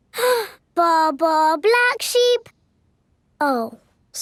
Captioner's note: inhales